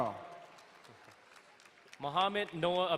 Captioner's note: crowd cheering